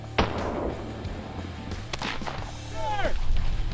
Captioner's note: gun firing